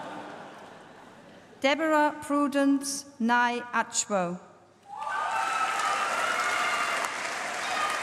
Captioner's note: applause